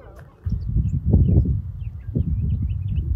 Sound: chirping; wind

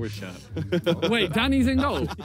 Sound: laughs

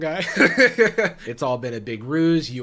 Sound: laughs

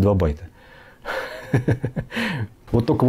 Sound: laughing

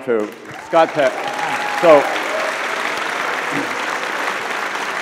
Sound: audience laughs

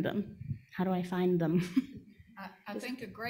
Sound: audience member chuckling

